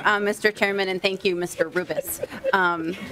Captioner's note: laughing